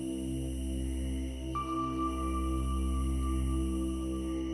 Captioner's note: insects chirping